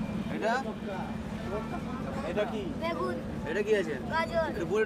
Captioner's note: Indian spoken audio